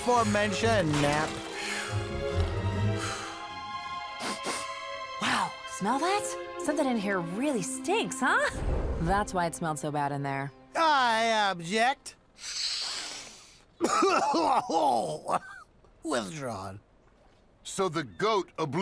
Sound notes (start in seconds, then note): 2.6 snoring quietly; 4.1 sniffs; 12.4 sniffs; 13.8 coughing